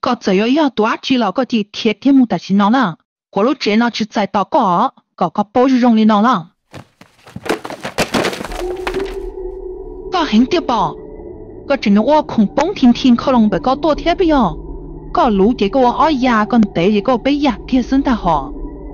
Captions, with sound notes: I don't care what you are, but you better get out of my house! This house does not welcome you! [clatter] You think you're tough?! How dare you knock stuff over for over there?! I will cut you!